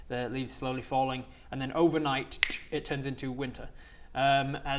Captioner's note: click